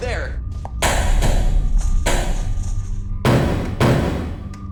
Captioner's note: loud pounding